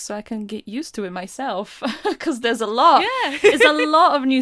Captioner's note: laughs